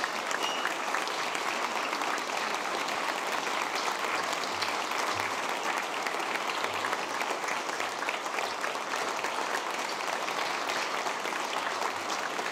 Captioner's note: applause